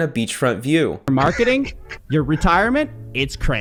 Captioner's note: laughing